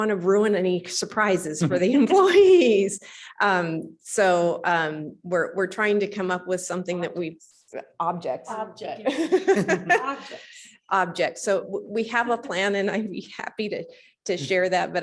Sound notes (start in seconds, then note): 9.1 laughs